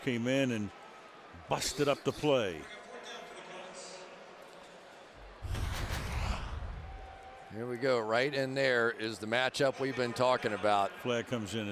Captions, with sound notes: Ninkovich came in and busted up the play. [pa announcement] Here we go. Right and there is the matchup we've been talking about.